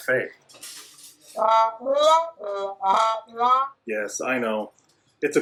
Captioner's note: cafe sounds